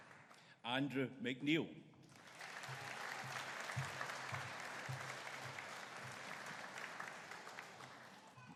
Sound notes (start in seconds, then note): 2.1 audience applauding